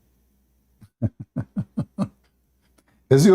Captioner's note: Ketawa